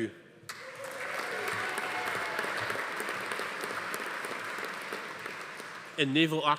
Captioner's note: attendees cheering; audience applauding